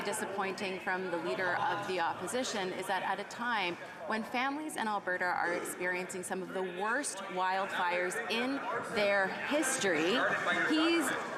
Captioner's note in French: voix de l'interprète